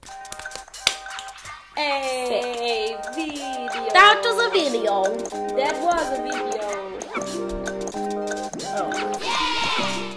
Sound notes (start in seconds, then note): 0.1 electronic music; 9.2 crowd cheering